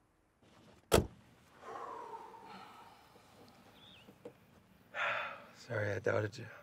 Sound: door thuds; Cody exhales; sighs

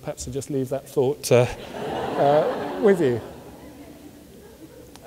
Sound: audience laughs

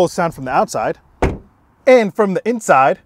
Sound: lock thumps

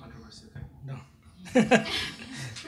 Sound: laughs

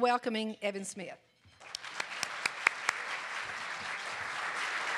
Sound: audience applause

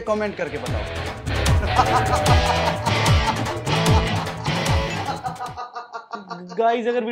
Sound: laughing

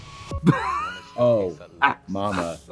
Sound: Trixie laughs

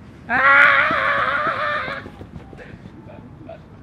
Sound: screaming

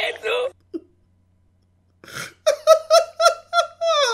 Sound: laughs loudly

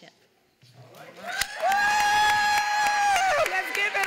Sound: applause

